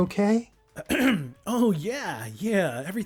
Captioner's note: clears throat